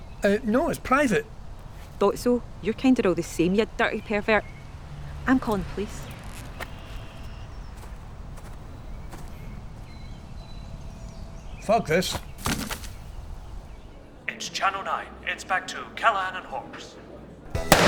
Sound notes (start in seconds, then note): 11.1 rustling